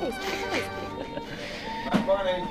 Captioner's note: laughing